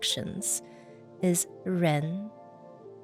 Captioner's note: speaking in foreign language